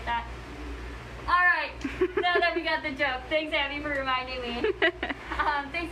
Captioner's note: laughs